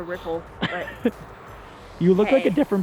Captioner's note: laughs